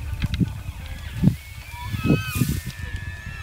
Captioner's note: elk bugling